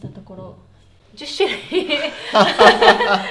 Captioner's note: laughs